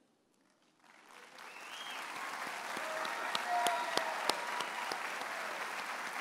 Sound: audience applauds and cheers

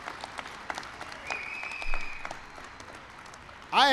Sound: applause

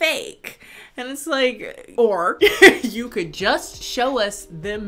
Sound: laughs

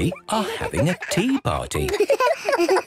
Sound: giggles, snorts

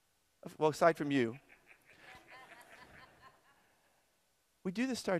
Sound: audience laughter

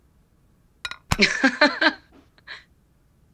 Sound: laughs

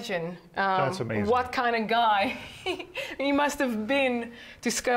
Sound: laughs

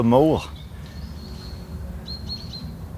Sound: birdsong

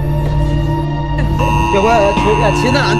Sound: emergency disaster text alarm sound

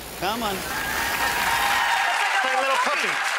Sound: cheers and applause

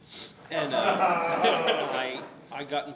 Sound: audience laughs

